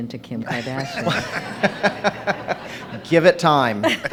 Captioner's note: laughing